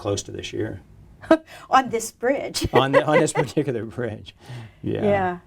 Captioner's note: chuckles